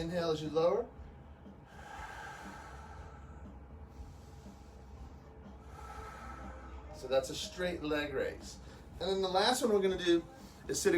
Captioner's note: exhaling as leg lifts